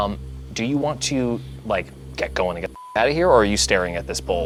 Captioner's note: beeps